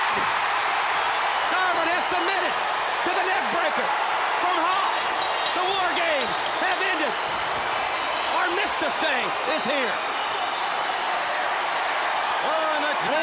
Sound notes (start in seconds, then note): 3.3 crowd cheering; 6.3 bell ringing; 9.9 crowd cheering